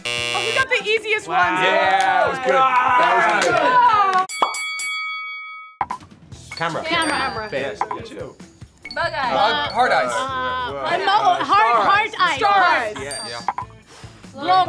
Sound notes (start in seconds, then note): 0.0 bell blares; 1.6 group clapping; 4.3 boxing bell rings; 12.9 bell dings